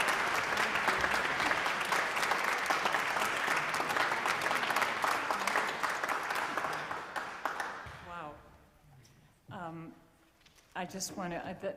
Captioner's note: applause